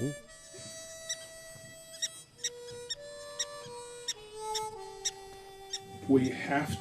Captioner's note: somber harmonica music; prairie dog squeaking